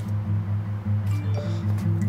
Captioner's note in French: notification